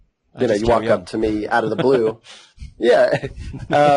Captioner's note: laughs